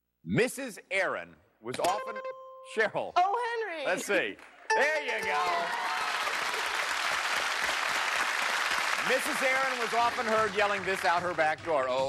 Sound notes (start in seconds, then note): 1.8 dings; 4.7 dings; 5.2 applause